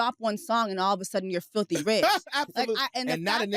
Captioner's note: laughs